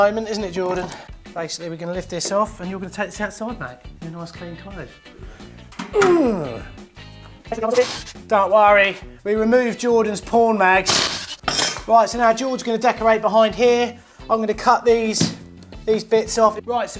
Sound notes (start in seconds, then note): 5.9 man grunting